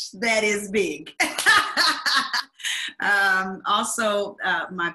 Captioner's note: laughs